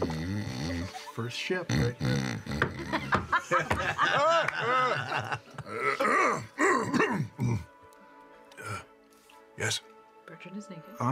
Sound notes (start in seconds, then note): 1.7 Bertrand snoring and startled awake, he clears his throat